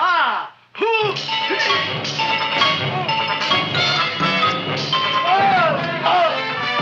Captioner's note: Seymour and Phoebus grunting; dramatic music